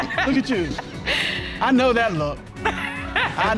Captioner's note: laughing